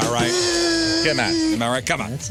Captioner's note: buzzing